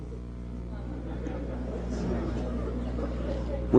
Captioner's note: laughter